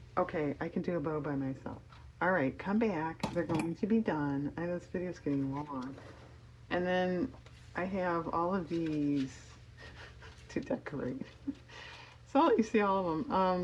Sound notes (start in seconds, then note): 9.8 laughs